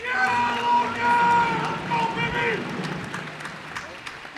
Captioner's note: cheers and applause